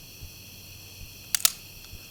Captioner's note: gun clicking